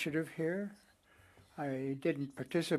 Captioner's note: speaking French